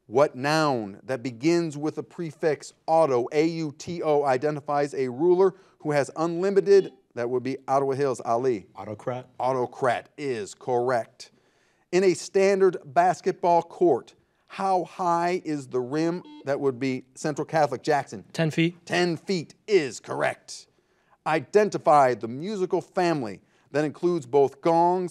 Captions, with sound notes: What noun that begins with a prefix auto, A-U-T-O, identifies a ruler who has unlimited- (buzzer buzzes) That would be Ottawa Hills, Ali. - Autocrat. - Autocrat is correct. In a standard basketball court, how high is the rim? (buzzer buzzes) That would be Central Catholic, Jackson. - 10 feet. - 10 feet is correct! Identify the musical family that includes both gongs